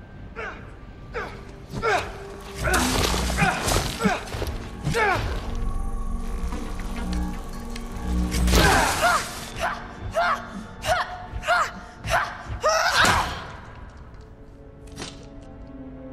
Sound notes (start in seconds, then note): 2.5 grunting; 8.5 grunt; 11.0 grunting